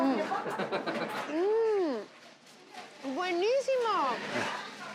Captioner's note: laughs